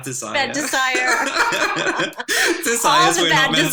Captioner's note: laughter